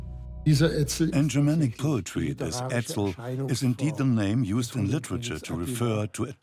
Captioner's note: in German; dubbed in English